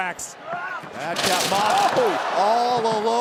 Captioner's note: wrestler grunts